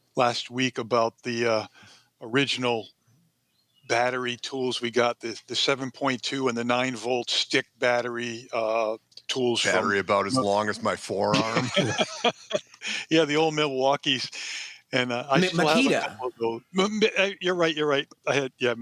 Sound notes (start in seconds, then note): 11.2 laughter